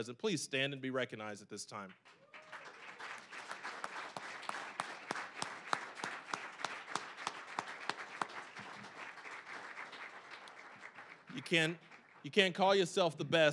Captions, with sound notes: please stand be recognized at this time. (applause) You can't call yourself the best